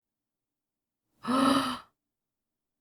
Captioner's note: gasp